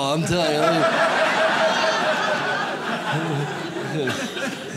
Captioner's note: audience laughs